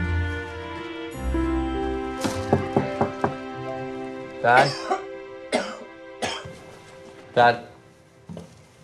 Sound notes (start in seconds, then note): 2.2 David knocks; 4.5 Marty coughs